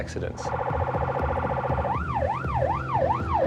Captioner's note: police siren wailing